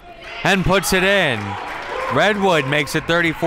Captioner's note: crowd clapping